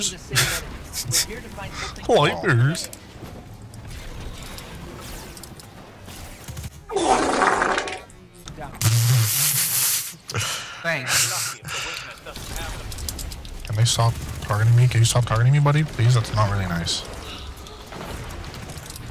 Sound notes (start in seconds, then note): 7.0 wet Fart Sound effect; 10.8 sarcastically; 10.9 sniggers